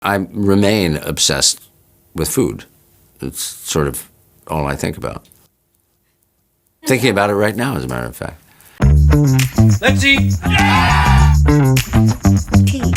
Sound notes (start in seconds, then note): 8.9 upbeat music; 10.4 group cheers; 11.5 upbeat music continues